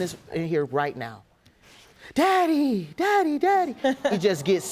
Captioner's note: judge lake chuckles